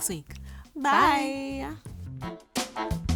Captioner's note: in Unison